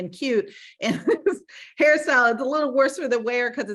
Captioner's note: laughing